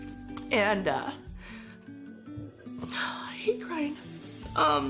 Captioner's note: voice breaking